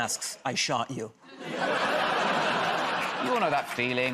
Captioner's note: laughter